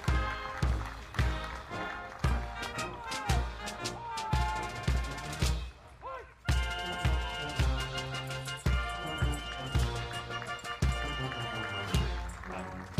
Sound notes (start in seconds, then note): 0.2 soldiers continue shouting commands; 7.1 audience applauding